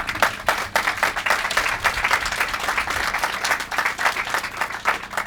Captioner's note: applause